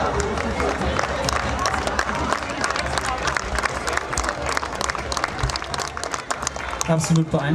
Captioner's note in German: Applaus